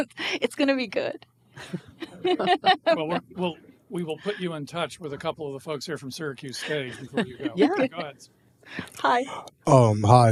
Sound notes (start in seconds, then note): 1.6 laughing